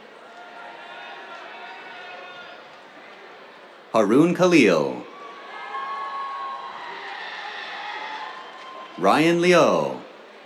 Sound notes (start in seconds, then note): 0.0 cheers; 4.6 cheers, applause